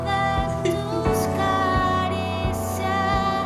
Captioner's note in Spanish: Sollozos